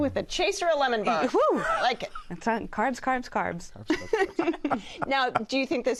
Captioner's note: laughs